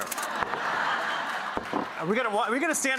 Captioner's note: audience laughs